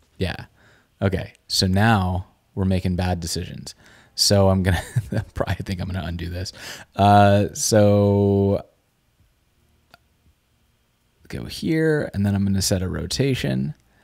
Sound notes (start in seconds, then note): 4.8 chortle